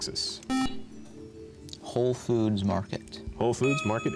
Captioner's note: buzzer